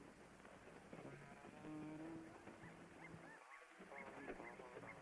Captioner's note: birds chirping